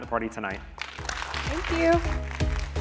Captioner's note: audience applauding